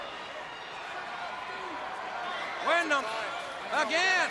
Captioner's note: crowd chatter